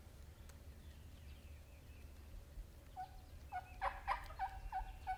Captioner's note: gobbling continues